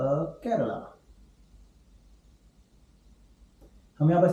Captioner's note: silence